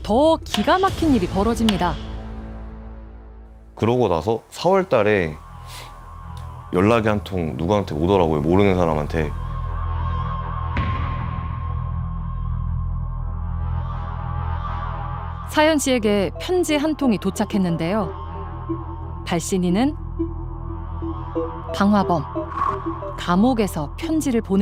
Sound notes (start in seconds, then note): 3.8 voiceover